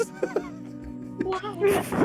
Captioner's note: laughter